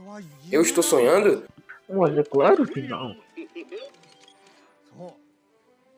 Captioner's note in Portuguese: risos